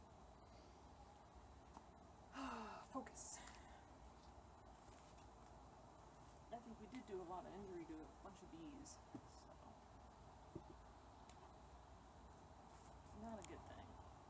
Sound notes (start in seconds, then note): 2.3 sigh